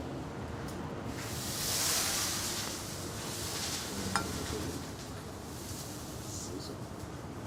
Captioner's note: water spraying and hissing against pan